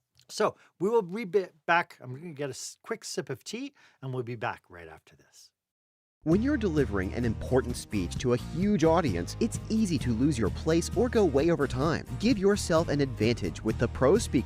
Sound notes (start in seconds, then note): 6.2 voiceover